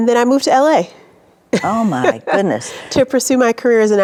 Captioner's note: chuckling